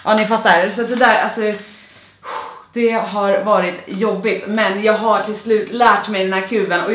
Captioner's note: puff